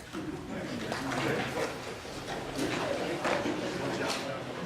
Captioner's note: audience chatters